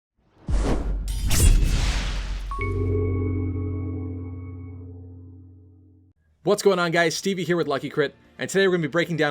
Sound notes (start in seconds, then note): 0.4 swoosh; 0.7 sword slash; 2.5 intro Jingle